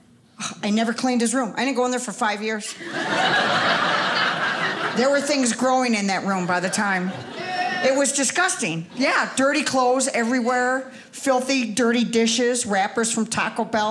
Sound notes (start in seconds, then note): 2.7 audience laughing